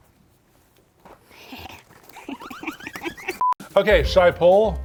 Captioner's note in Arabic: تضحك